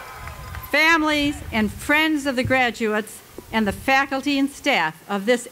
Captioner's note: cheering